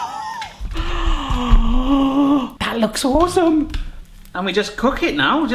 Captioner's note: gasps; laughs